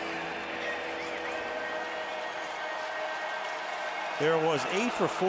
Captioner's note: pa announcement